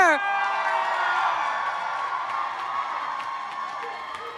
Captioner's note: crowd cheers